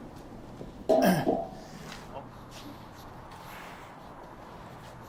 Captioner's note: metal clanging